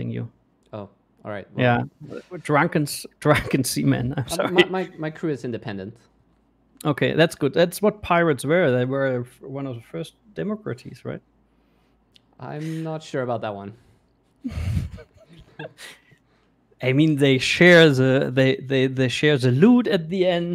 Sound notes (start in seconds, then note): 14.4 laughing